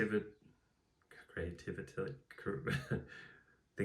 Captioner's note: chuckles